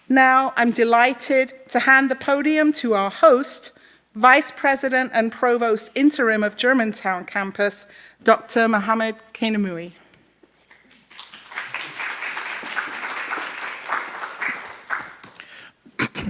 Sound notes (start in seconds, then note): 10.7 audience applauds